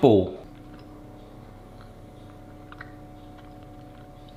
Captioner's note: mouth smacking